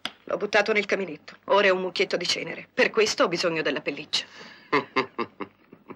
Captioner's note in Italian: risate